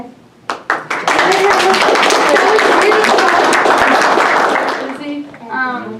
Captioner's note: applause